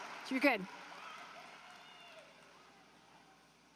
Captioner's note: applause